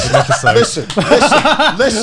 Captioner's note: laughing